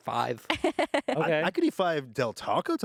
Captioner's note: laughs